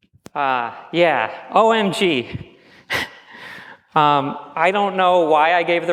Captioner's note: chuckles